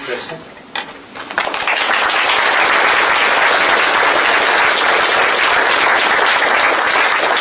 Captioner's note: applause